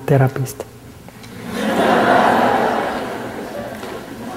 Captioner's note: laughter